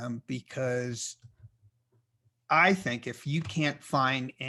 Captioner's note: none